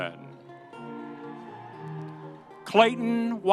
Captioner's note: audience cheering